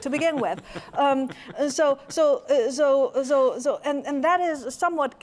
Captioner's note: laughter